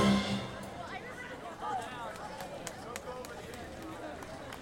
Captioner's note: chattering